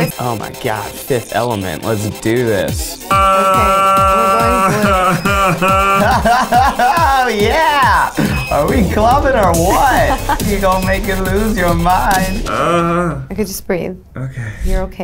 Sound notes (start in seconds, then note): 4.7 laughs